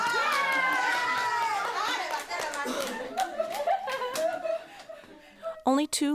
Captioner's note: applause